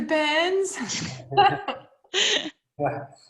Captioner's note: laughing